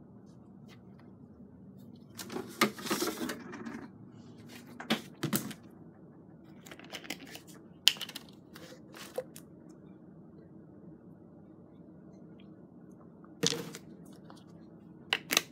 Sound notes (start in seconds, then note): none